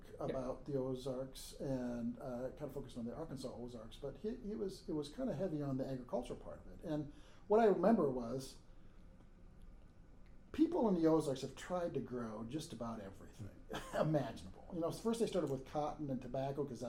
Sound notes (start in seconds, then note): 13.6 laughing